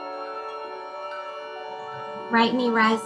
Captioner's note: high-pitched sound